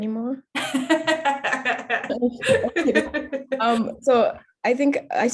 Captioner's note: laughing